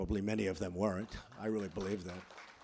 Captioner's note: applause